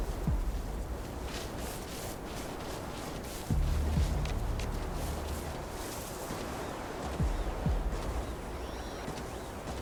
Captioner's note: wind blowing